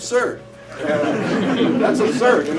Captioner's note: laughter